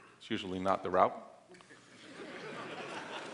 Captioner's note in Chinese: 笑聲